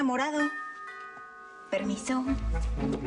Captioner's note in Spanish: Timbre de la puerta